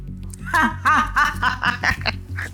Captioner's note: laughs